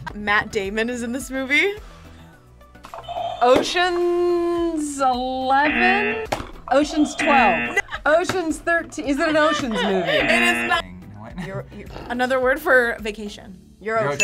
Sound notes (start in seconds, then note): 3.0 buzzer rings; 6.8 buzzer; 9.1 laughs; 10.0 buzzer